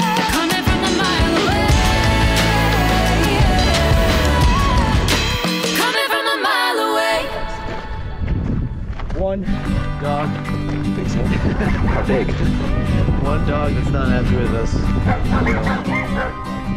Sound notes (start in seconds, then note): 7.9 music fades out; 9.4 string music; 15.0 dog barking